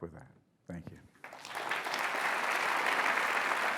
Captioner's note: applause